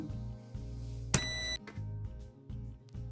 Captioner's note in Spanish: pitido fuerte